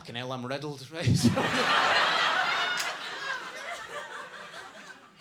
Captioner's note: audience laughs